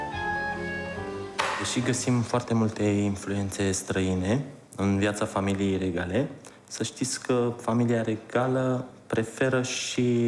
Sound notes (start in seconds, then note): 1.3 speaking foreign language